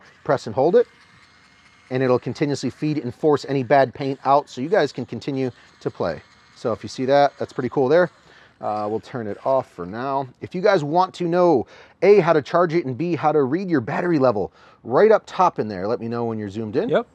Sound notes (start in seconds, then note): 6.7 TFX 3 Hopper whirring